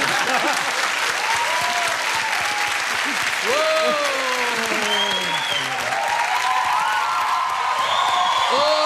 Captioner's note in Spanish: aplausos